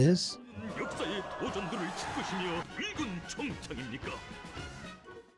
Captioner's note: speaking in foreign language